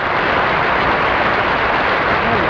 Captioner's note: audience applauding